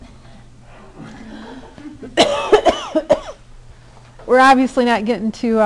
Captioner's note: coughing